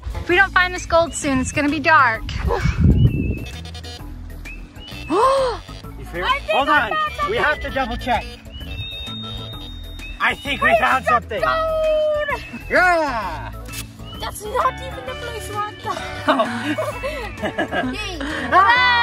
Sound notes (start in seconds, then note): 3.1 metal detector beeps; 5.1 gasps; 15.7 laughs